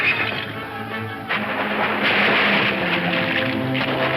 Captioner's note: horse neighs; water splashing